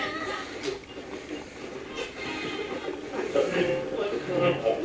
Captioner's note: radio channel changing